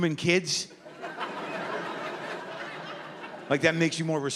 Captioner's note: laughter